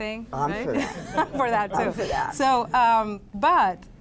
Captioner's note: laughs